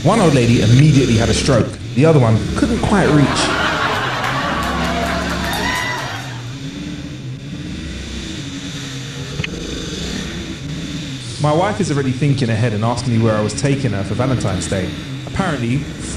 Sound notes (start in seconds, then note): 2.7 laghter Applause; 6.7 sound of outboard motor